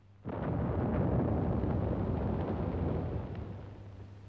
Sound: exploding

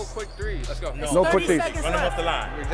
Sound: overlapping chattering

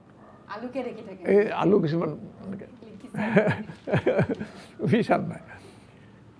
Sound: laughs

